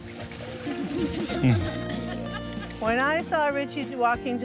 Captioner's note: audience laughs